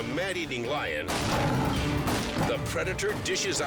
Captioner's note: rifle blasts